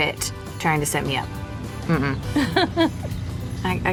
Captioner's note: ellie laughs